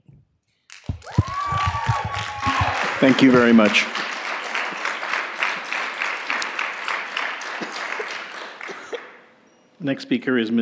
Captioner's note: cheers and Applause